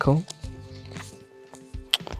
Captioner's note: paper rustling